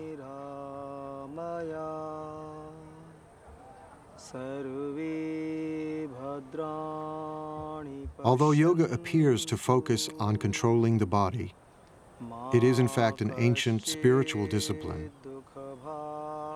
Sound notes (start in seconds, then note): 0.7 chanting continues